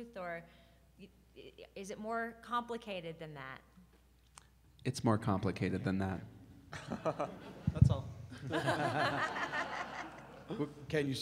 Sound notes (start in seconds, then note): 6.9 laughing; 8.3 group laughing